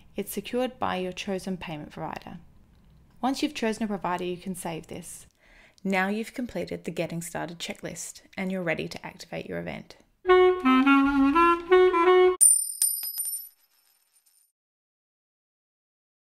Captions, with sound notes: It's secured by your chosen payment provider. Once you've chosen a provider, you can Save this. Now you've completed the Getting Started checklist and you're ready to activate your event. (upbeat music) (coin tinkling)